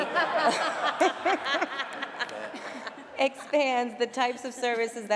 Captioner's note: laughter